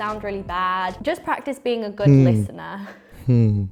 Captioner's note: laughs